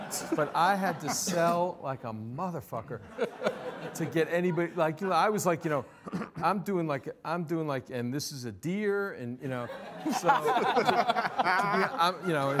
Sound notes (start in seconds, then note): 4.7 stammering; 9.7 all laughing